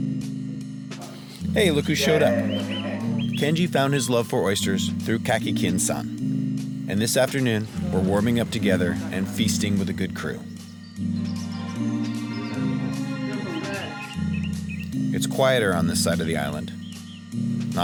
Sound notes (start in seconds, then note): 11.6 birds chirping; 11.6 somber music